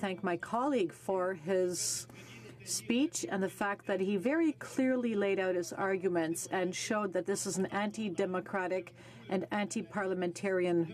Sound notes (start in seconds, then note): 2.7 speaking in French